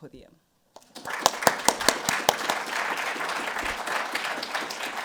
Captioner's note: audience applauding